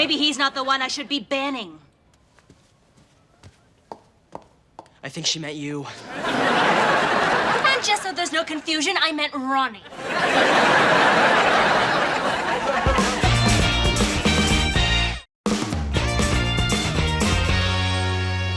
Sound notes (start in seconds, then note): 5.9 audience laughing; 9.8 audience laughing; 12.6 upbeat music